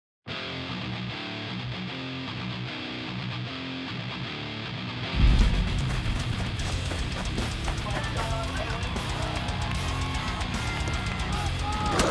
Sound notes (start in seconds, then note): 0.2 upbeat metal music; 8.3 crowd cheering